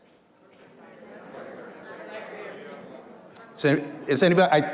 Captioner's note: muffled chatter